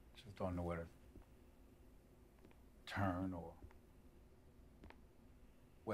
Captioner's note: none